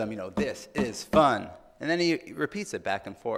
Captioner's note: tapping